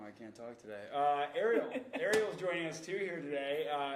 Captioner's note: chuckling